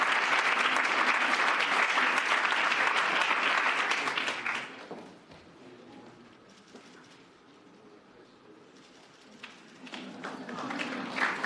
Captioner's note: cheers and applause